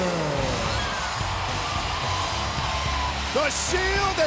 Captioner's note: audience cheers